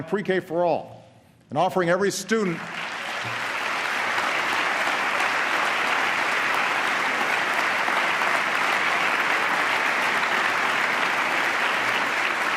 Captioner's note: applause